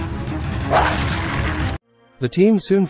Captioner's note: barks